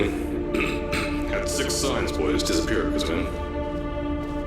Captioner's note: ahem